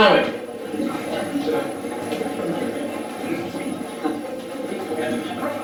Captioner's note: static playback transmitting